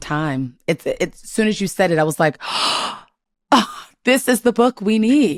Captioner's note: gasps